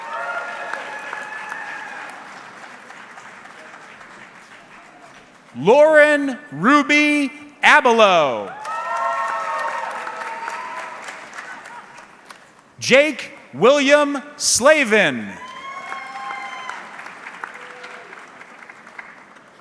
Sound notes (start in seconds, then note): 0.0 audience cheering; 7.7 audience cheering; 14.6 audience clapping